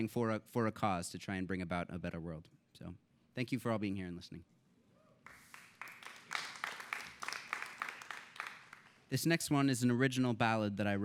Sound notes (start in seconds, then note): 5.2 applause